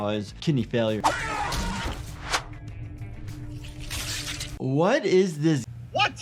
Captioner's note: animatronic screaming; blood spraying